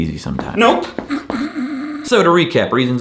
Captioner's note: snoring